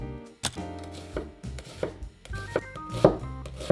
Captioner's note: chopping